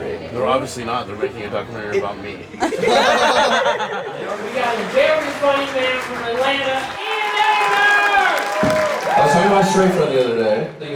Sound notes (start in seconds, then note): 2.6 group laughs; 8.0 crowd cheering